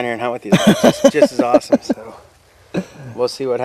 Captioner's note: laughing